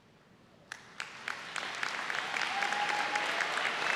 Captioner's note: applause